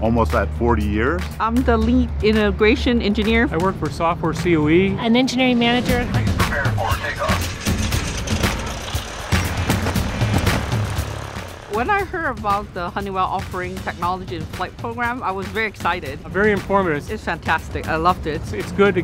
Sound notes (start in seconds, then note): 7.8 engine revs